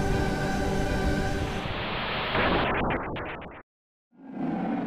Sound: Static, Giygas is defeated; creature roaring, footsteps coming closer

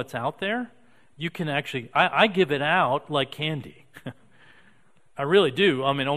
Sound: chuckling

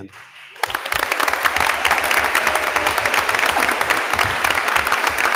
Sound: attendees applauding

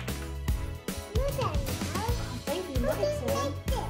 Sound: babbling

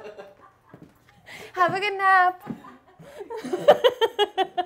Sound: laughs

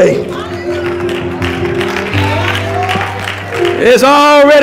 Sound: audience applauds

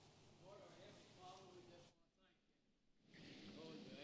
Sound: speaking faintly

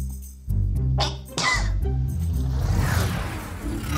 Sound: cough

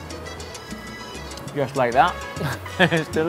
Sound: laughs

